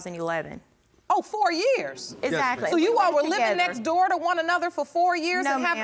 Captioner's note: none